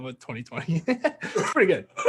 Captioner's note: laughing